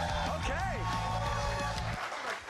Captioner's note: cheers and applause